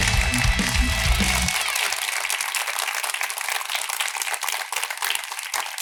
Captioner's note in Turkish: alkış